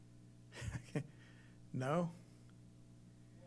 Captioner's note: laughs